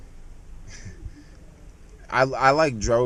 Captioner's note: laughs